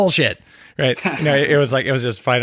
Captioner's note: chuckling